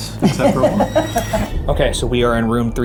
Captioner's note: laughs